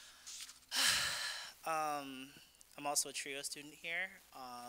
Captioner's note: sighing